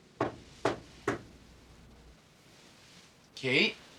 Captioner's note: light knocking